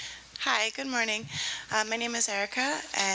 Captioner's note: voiceover